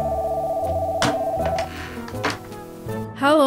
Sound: phone rings

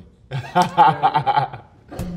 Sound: laughing

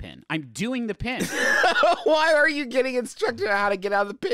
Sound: laughing

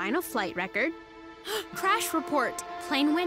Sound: gasping

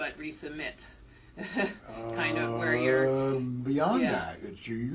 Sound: laugh

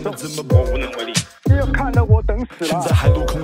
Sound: elder on the phone

